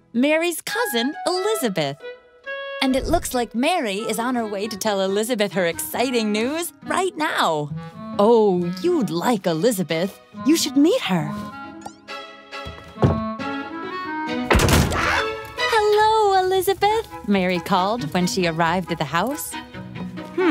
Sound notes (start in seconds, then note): 15.3 yelps